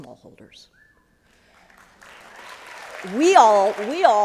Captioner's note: applause